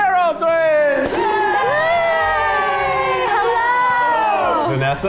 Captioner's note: everyone cheers